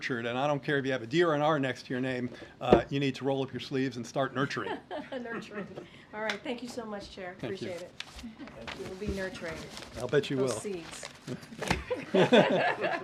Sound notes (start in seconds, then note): 4.6 laughs; 11.7 laughter